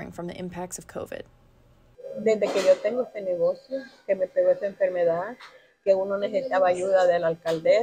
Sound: in Spanish

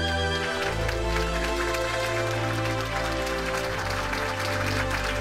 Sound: audience applauds

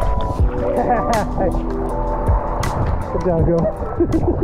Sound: laughs

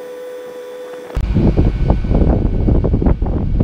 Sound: wind noises

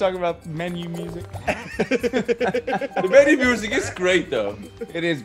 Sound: laugh

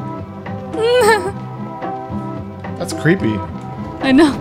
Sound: giggling

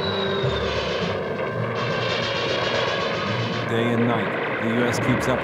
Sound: gunshots bang

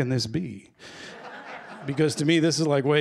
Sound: laughter

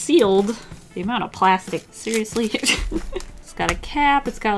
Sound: laughs

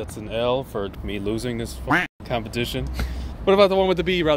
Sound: duck quacking

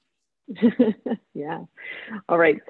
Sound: laughter

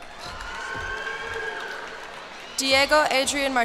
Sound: cheers and applause

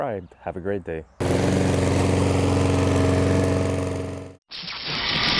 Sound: lawnmower rumbling; drilling sounds

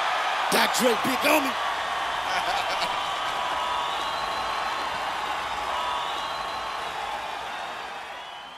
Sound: applause

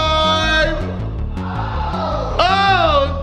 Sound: others shouting

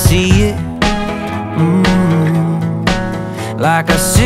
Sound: humming

